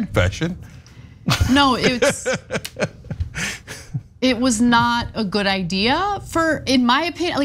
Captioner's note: laugh